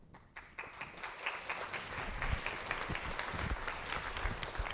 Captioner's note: audience clapping